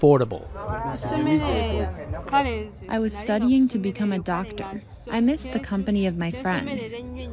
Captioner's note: through translator